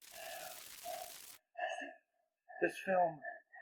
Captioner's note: glitch